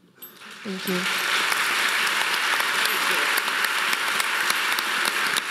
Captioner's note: audience applauding